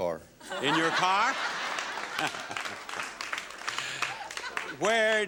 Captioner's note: audience laughing and clapping lightly